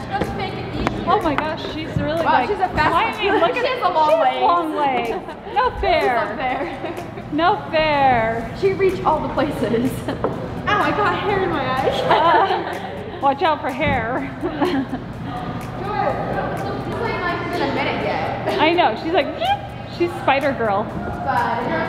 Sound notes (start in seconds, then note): 11.8 laughs; 19.3 squeaks